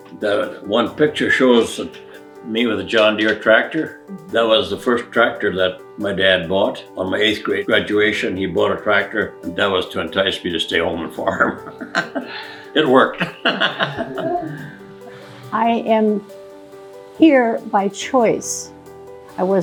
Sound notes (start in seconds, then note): 12.9 laughs